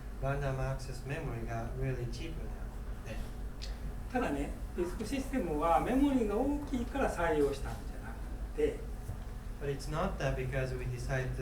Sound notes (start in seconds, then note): 4.2 speaking in foreign language